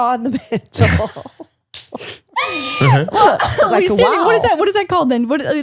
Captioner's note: laughing